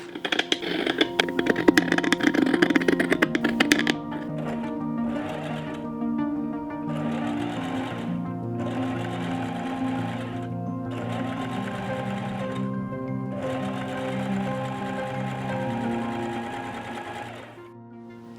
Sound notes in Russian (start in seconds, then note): 0.0 звук ножниц; 4.1 стук швейной машины